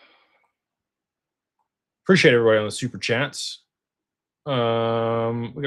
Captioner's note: sighs